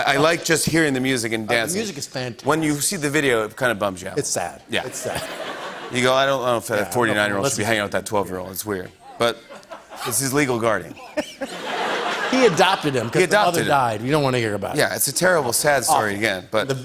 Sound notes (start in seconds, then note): 4.9 laughter; 10.9 laughter